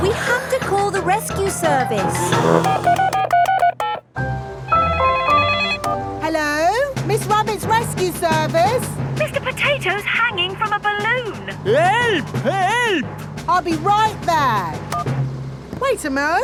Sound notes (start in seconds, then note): 2.2 beeping; 4.9 phone ringing